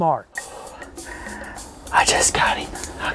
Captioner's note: whispering